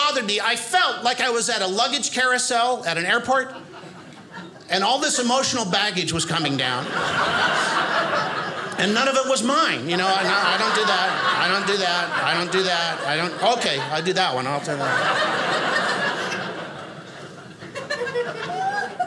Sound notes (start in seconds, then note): 15.2 audience laughing